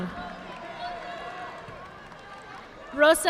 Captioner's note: audience clapping